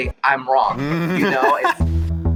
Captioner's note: laughs